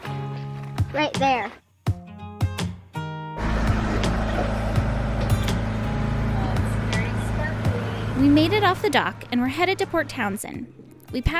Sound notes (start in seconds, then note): 1.7 boat engine noise